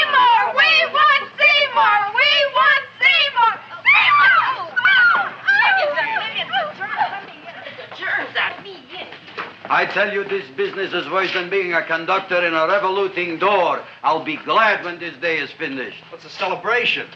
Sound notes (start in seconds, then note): 4.6 girls chattering